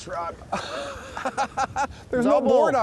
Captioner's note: laughing